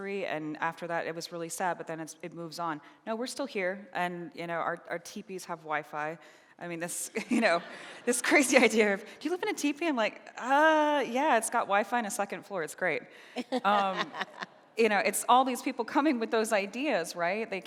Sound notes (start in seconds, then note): 13.4 laughing